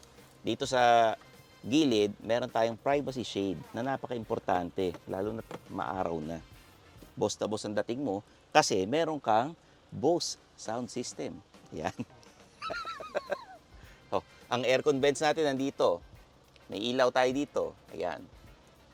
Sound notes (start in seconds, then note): 12.6 laughs